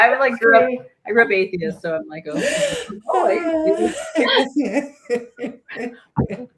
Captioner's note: laughter